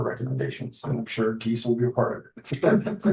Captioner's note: laughter